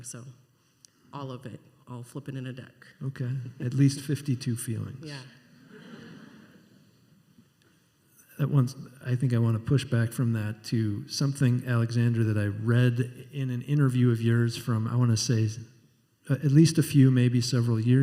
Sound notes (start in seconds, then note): 5.8 scattered laughter